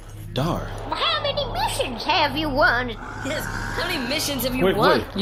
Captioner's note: laughing